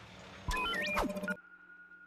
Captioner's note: beeping